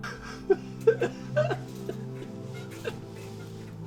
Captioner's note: melancholic ambient music; loud, despairing cry